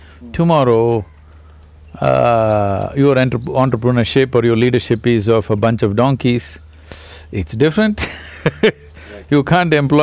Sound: laughs

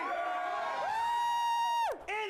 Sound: audience cheering

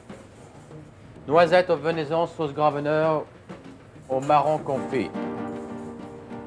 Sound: speaks foreign language

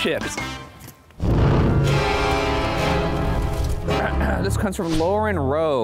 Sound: smoke whooshing; intense creepy music

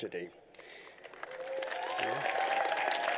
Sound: applause

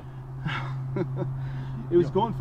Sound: chuckle

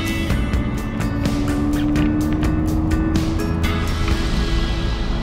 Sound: car engine humming

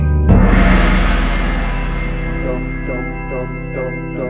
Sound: gong sounds

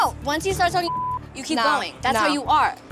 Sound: beep

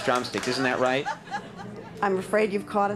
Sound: audience laughing

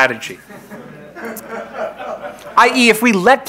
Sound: crowd laughing

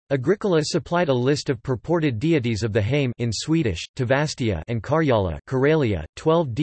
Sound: in Swedish, Tavastia

